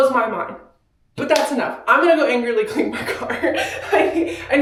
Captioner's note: laughs